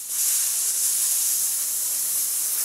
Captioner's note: hiss